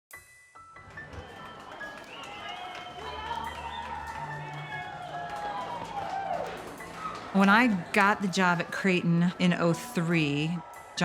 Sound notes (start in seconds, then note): 0.1 uplifting music; 2.0 spectators cheering; 5.0 athletes cheering